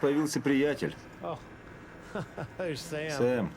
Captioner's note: laughs